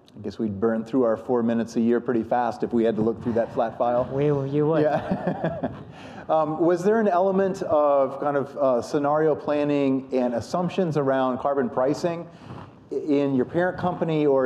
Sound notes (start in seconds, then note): 5.9 laughs